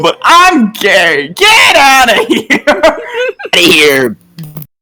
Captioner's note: breaks into laughter